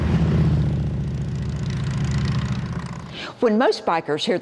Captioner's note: motorcycle engines purr